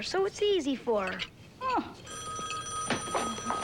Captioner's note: phone rings